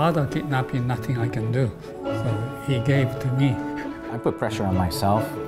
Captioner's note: laughing